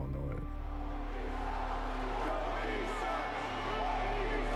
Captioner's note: crowd chanting, "Kobe sucks"